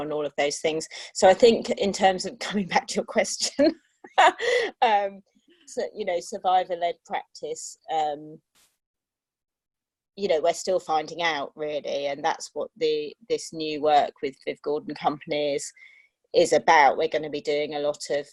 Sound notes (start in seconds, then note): 4.1 laughter